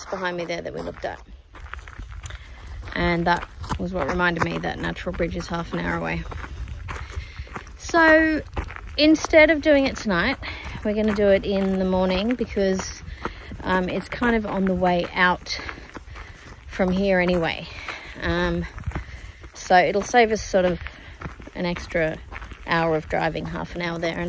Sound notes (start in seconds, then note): 1.5 feet crunch on gravel; 16.4 feet continue gravel crunching